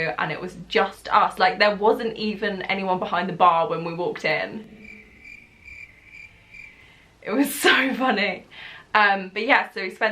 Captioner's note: cricket noise